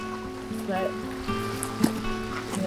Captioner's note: guitar music continues; water burbling